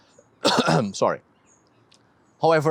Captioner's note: coughs